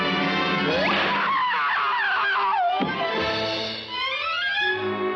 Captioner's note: mallet bangs; fast-paced dramatic music